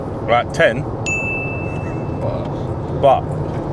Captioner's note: bell chime